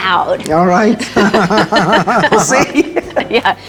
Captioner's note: laughs